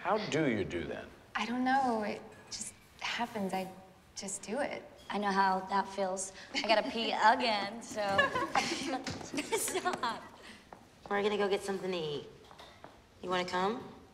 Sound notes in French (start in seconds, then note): 8.0 rires